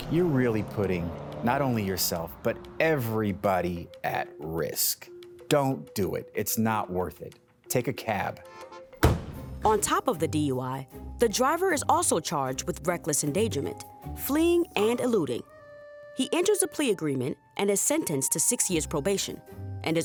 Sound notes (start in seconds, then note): 8.4 car honking; 9.0 car door slams